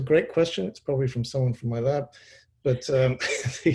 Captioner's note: laughs